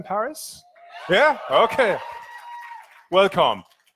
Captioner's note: audience cheers